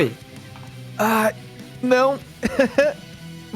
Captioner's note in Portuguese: risadinha